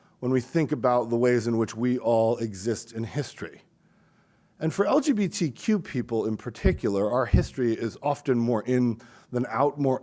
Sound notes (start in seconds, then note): none